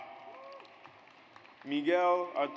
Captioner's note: audience applauds